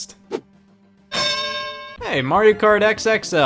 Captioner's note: bell dings